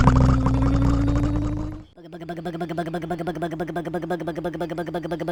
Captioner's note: motor